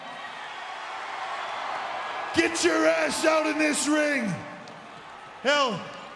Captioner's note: applause